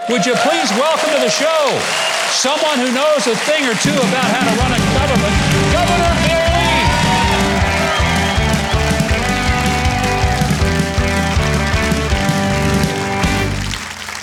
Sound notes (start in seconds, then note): 7.4 audience applauding; 7.4 lively music